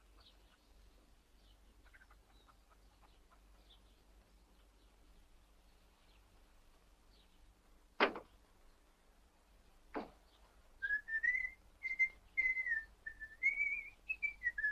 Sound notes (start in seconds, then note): 8.0 door closes; 10.8 whistles jauntily